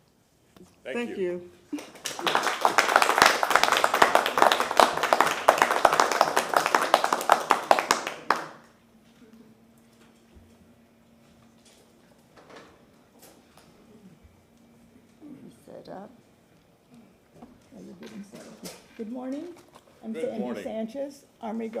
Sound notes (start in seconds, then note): 9.3 applause